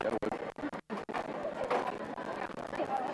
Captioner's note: chatter